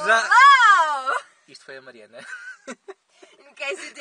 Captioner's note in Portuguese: Risos